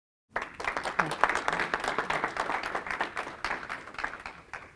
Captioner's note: class applauds